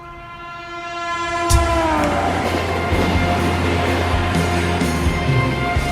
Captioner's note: train hits